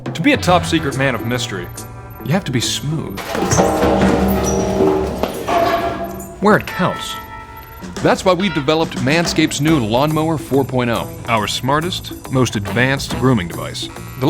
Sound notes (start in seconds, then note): 3.1 metal clanging